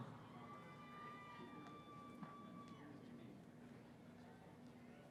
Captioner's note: cheering